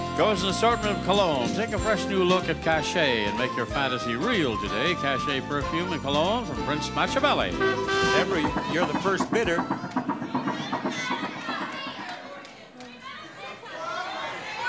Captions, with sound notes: goes an assortment of colognes, take a fresh new look at Cachet and make your fantasy real today. Cachet Perfume and Cologne from Prince Matchabelli. Debra, you're the first bidder. (audience chattering)